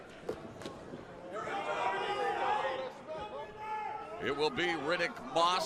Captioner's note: crowd chatter